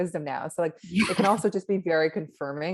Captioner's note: laughs